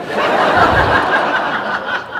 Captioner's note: laughter